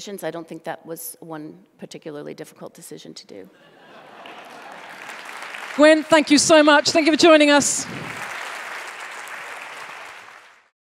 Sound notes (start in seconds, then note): 3.6 laughter and applause; 7.9 applause